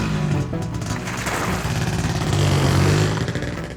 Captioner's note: motorcycle rumbles